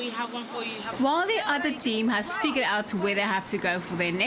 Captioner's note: narrating